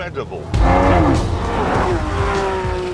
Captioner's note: revving